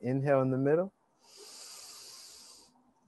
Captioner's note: inhale deeply